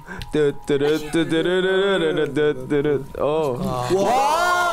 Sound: hums along to studio music

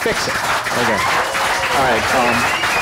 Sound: whistles, cheers, applause

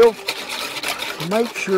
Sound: whisk stirring against side of bowl

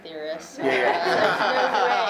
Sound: many laughing

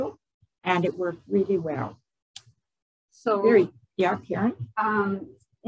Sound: none

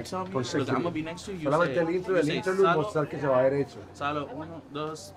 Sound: both continue in Spanish

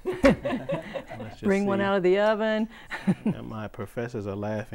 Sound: laughing

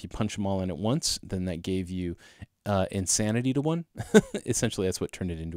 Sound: laugh

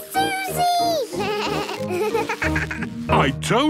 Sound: bleating, laughing

